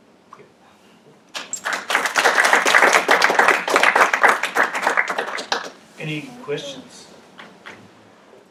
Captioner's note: applause